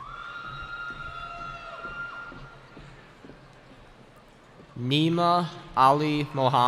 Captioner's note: cheering